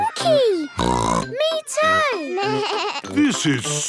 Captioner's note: snorts; bleating